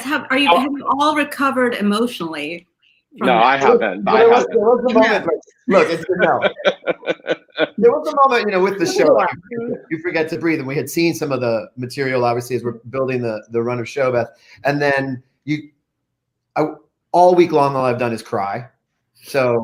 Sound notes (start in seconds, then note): 5.6 group laughing